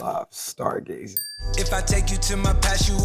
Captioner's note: bell dings